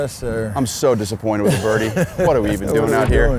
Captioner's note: laughs